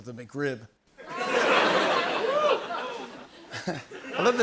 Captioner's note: laughter